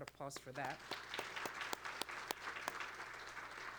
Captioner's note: applause